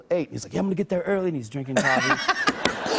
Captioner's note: laughter